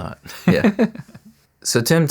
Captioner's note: laughing